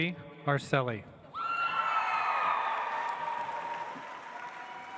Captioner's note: audience applauds